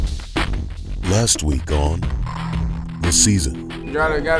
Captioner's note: voiceover